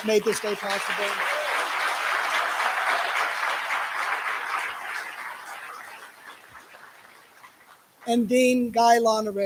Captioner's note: applause